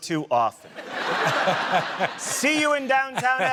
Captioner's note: laughter